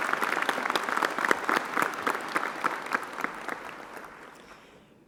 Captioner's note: applause